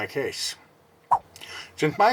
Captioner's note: swipe Sound